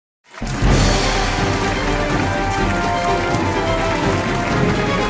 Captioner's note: applause